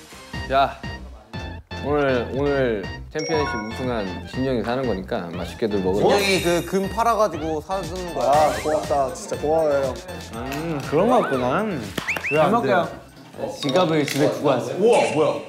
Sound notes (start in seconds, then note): 11.9 clapping